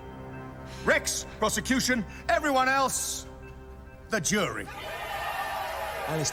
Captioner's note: crowd cheering